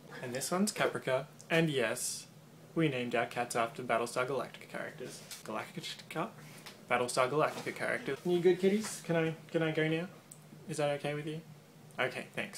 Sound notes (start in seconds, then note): 4.1 tictictic